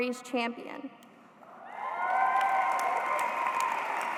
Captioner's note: applause